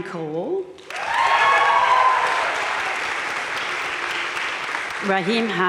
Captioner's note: audience cheering and applauding